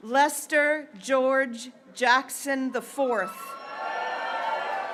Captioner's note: graduates cheering